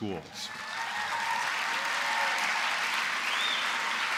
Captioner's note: applause